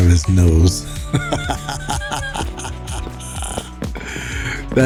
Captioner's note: laughs